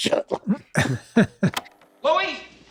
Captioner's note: Rob laughing softly